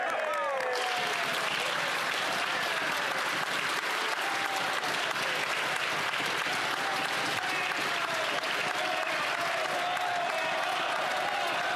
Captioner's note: applause